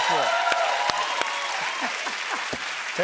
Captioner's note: cheers and applause